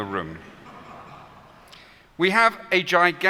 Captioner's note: laughter